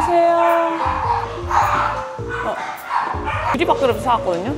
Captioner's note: dogs welcoming us